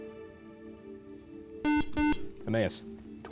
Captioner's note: beep